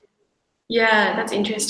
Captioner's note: none